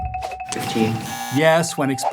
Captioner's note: buzzer sound